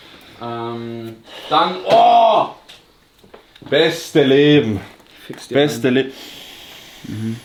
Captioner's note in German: seufzt